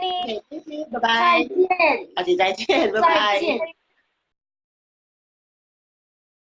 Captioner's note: speaking foreign language